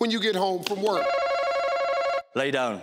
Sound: bell ringing

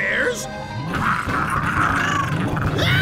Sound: growling; screaming

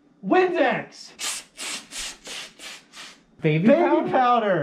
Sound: Windex noises

